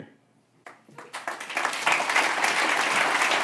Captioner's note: applause